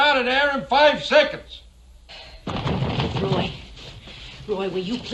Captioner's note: pounding on door